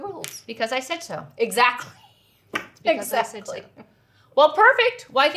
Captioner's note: laughs